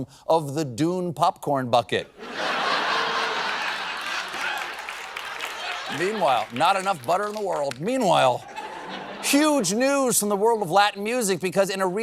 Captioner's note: laughter